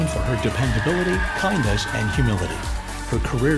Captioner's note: audience cheering